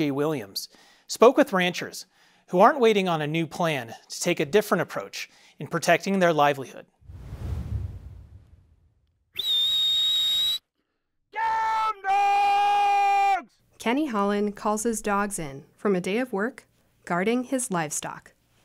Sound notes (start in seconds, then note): 7.7 whistles